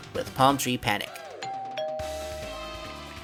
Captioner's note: doorbell sounds